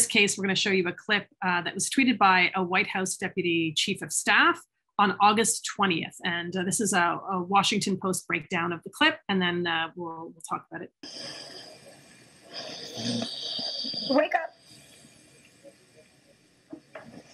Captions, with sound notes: In this case, we're gonna show you a clip that was tweeted by a White House deputy chief of staff on August 20th. And this is a Washington Post breakdown of the clip, and then we'll talk about it. (President Biden snoring) - Wake up.